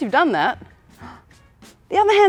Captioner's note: gasp